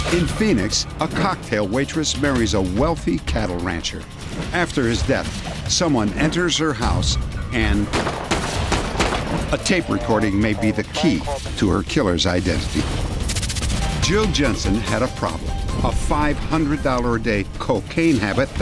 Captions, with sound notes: In Phoenix, a cocktail waitress marries a wealthy cattle rancher. After his death, someone enters her house, and-- [GUNSHOTS] A tape recording may be the key to her killer's identity. Jill Jensen. Had a problem-- a $500 a day cocaine habit